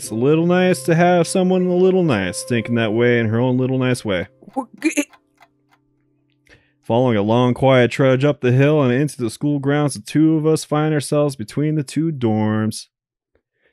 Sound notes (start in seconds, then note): 4.4 chuckles